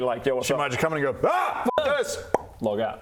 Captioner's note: pop